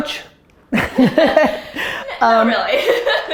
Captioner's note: laughing